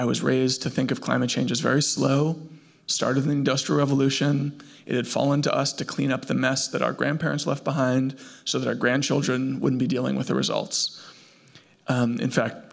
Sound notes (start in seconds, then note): none